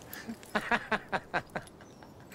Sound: laughing

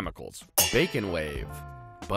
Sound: pans clanging

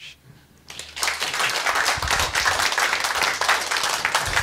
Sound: applause

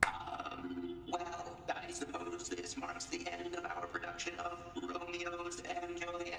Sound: claps

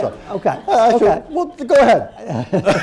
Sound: laughter

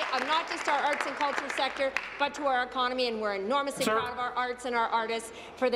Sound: applause

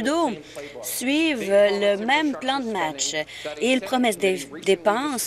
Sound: none

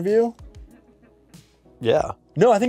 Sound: crew giggles

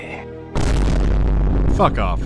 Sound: boo-om

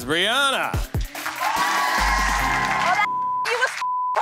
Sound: audience cheering; beep

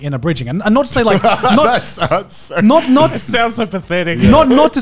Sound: laughs

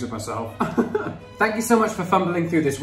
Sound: laughing

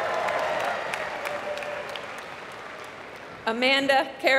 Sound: applause

